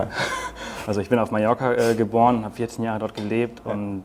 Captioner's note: laughs